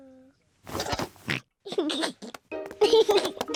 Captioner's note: oinks and giggles